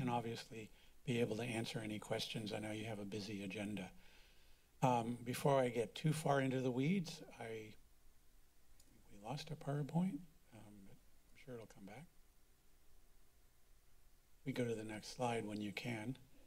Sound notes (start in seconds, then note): 3.9 pause; 12.4 silence